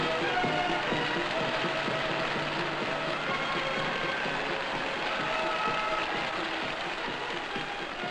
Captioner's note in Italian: Applauso